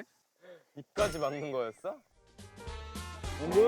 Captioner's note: haha